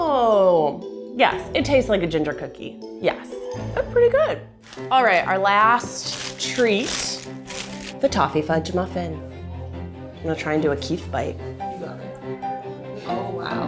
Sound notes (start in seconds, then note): 7.0 paper rustling; 11.2 gentle bright music